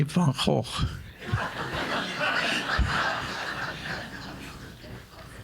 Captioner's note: audience laughing